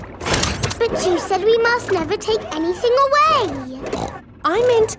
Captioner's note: snorts